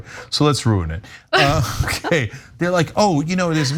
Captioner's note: laugh